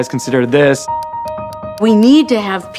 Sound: computer clicks

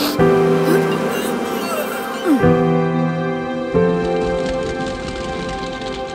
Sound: flies buzzing; person sniffing

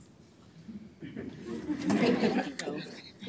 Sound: laughter

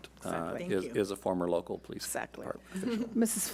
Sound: speaking faintly

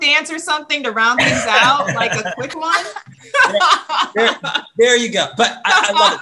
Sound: laugh

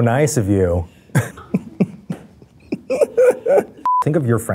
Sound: Eugene chuckles

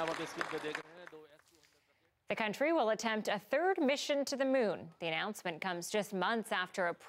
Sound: cheers and applause

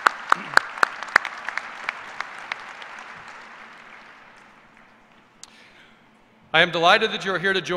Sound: applause

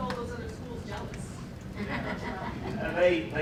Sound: laughter

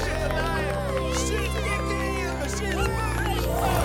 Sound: excited chatter

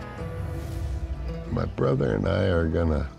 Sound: none

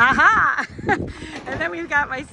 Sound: laughing

